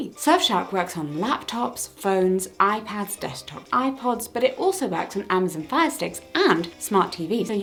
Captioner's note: none